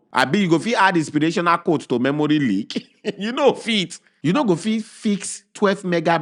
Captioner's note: chuckles